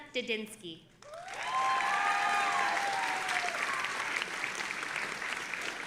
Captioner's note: audience applauding and cheering